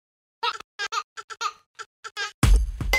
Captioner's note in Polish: śmiech dziecka; rytmiczna muzyka